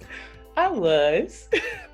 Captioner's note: laughs